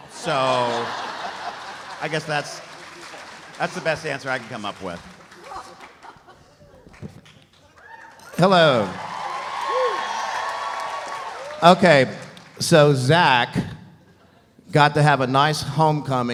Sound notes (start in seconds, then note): 5.3 laughs; 7.0 audience applauding; 7.6 audience cheering